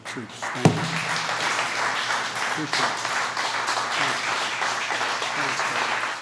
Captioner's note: applause